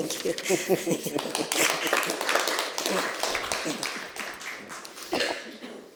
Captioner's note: applause